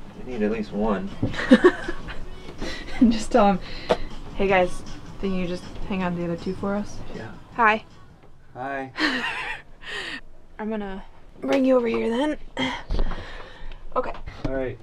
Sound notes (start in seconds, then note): 1.3 laughs; 8.9 laughs